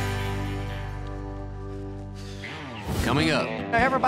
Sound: sighs

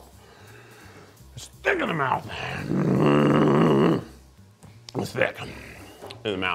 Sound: grunts

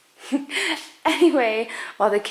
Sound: laughing

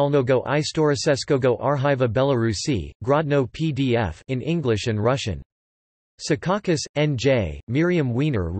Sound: in English and Russian

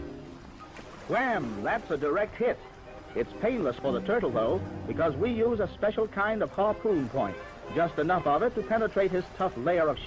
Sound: old-timey narrator

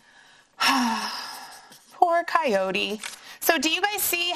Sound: sighs

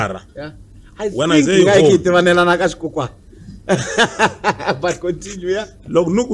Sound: laughs

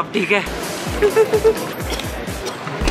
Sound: shivering

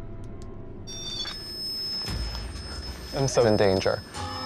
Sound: beeping

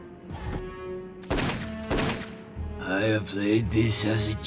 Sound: gunshots

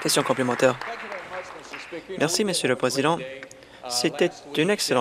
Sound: applause

